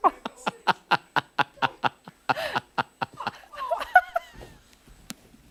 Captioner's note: laughter